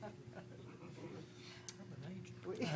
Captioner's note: laughing